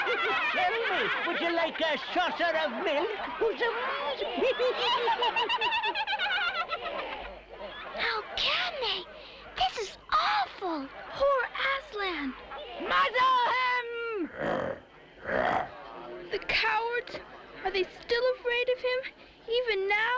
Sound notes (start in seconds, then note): 4.4 laughter and happy chatter; 15.2 growls